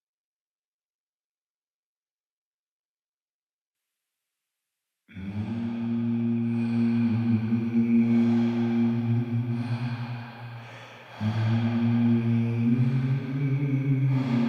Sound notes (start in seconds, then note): 5.1 person inhaling and exhaling; 5.2 artists vocalizing